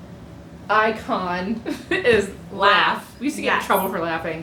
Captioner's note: laughter